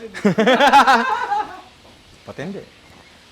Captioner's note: laughter